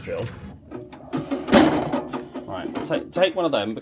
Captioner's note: drinks clack